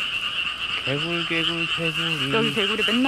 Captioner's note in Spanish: Ruidos de rana